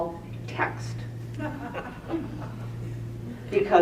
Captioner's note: laughter